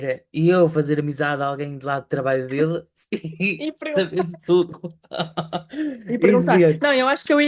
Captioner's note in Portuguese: risadas